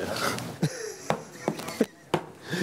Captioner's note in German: leises Lachen